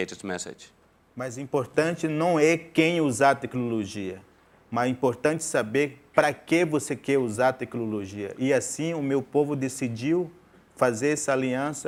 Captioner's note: speaking in portuguese